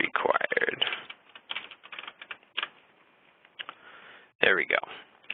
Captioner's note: typing